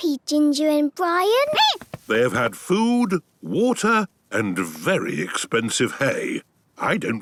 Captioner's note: squeaking